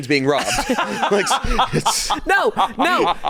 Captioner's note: laughing